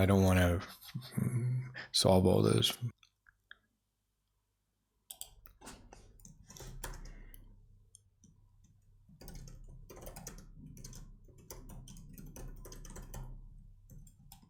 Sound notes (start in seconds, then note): 3.1 typing